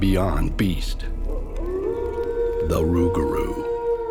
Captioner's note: Rougarou howling